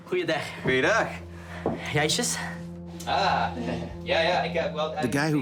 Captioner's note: speaking foreign language